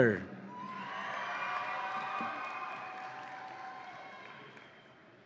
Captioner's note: audience applauds and cheers